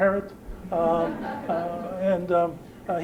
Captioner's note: laughter